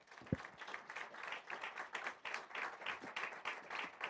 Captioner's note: audience claps